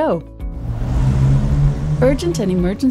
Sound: car engine roars

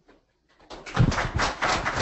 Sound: applause

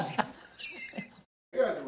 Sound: laughter

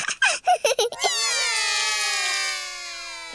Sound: laughs; all cry

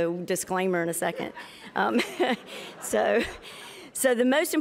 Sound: laughter

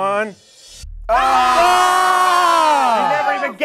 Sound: group grunting

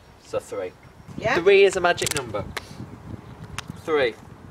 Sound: none

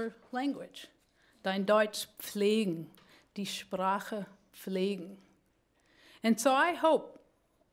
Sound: speaking german

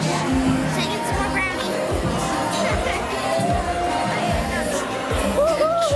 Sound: laughing

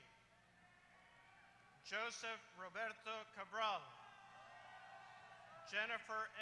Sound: applause

